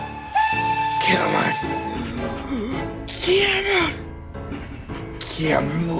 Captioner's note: deep inhale